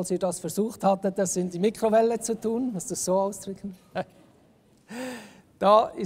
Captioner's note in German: lacht